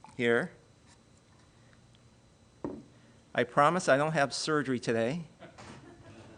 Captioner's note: laughing